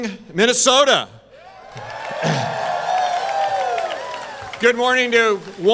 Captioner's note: crowd cheering